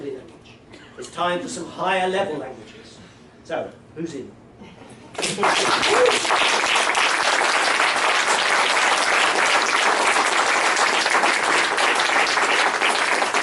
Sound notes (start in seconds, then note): 5.1 applause